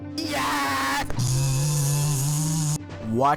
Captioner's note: plasma Ball zaps uncontrollably